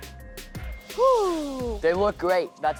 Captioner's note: sighs